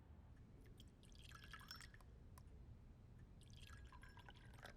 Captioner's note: tea trickles